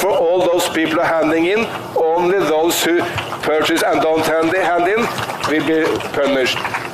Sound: applause

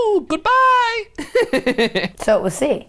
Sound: laughs

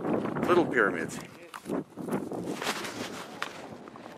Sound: wind whistling

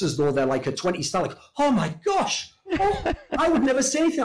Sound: laughs

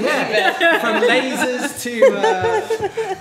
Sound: group laughing

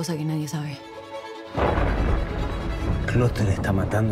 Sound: thunder rumbling

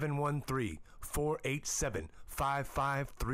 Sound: none

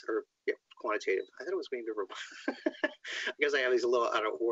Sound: laughs

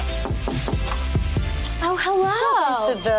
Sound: knocking

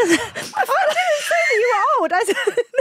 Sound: both laughing

